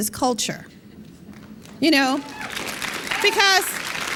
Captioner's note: applause